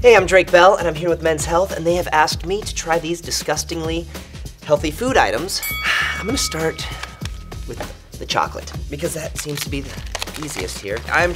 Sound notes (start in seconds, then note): 5.6 bell chimes